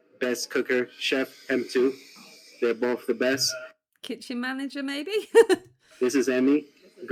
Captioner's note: laughing